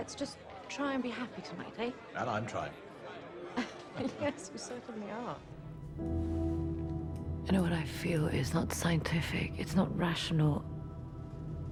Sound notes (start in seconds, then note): 3.6 laughs; 5.4 somber music